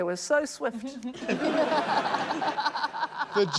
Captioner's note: laughter